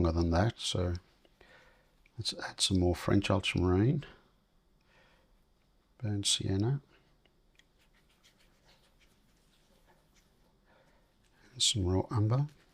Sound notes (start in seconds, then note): 8.7 silence; 12.4 silence